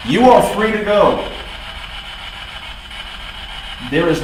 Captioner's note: static buzzing